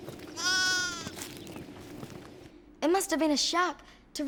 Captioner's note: lamb bleats